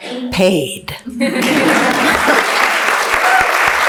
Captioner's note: laughs; applauds